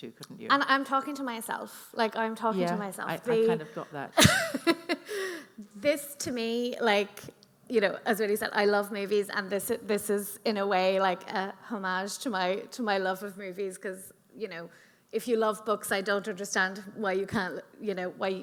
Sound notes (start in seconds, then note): 4.1 laughing